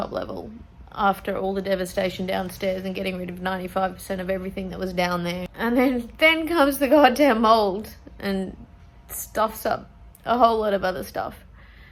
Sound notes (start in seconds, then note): 7.3 voice shakes with emotion